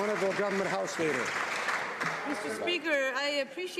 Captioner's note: some Applause